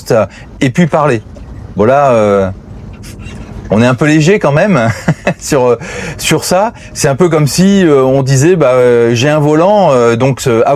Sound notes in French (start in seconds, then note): 4.8 rires